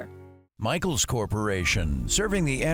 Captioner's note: commercial Voice